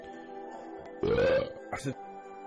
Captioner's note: burps